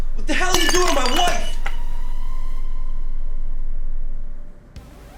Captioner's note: plate smashes